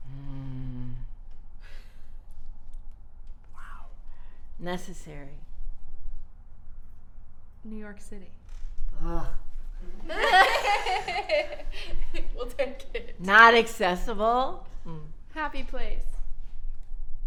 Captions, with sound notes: -: Wow. Necessary. -: New York City. -: (groans) (laughs) -: We'll take it. -: Not accessible. -: Happy place.